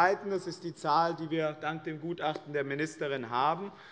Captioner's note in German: none